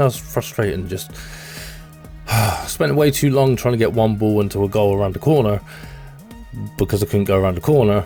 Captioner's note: sigh